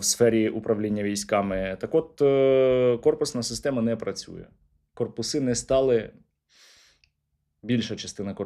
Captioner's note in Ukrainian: сопіння